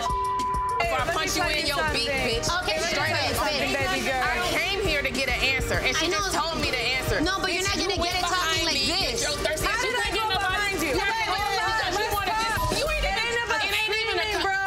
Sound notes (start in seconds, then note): 2.4 everyone chattering; 12.2 everyone chattering and shouting